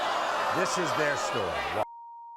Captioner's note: audience boos